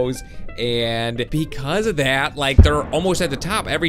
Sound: bomb explodes

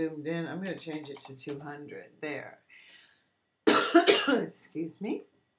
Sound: coughing

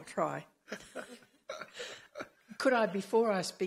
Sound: laughing

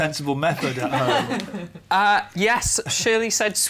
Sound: laughter

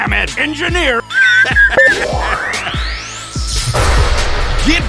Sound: laughing

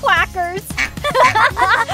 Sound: duck quacks; both girls laugh

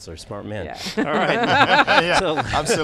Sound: all laughing

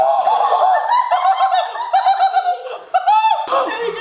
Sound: screams; laughter

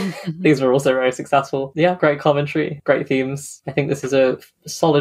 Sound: laughing

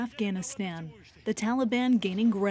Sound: speaking Foreign Language

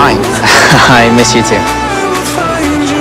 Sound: laughs

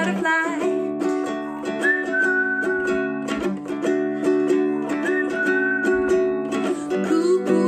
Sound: whistling

